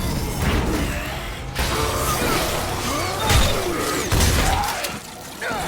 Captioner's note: roaring and fighting